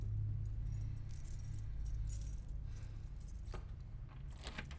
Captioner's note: keys jangling